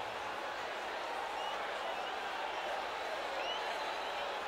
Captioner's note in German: beifall